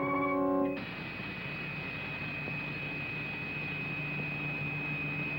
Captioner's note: electricity crackling